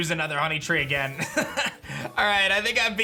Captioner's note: chuckles